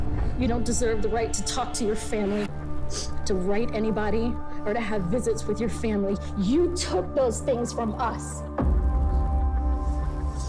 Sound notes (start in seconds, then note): none